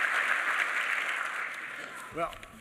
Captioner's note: applause